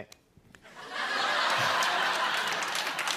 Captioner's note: laughter and applause